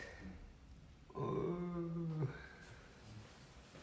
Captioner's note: fake crying